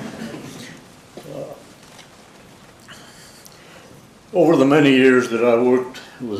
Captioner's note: laugh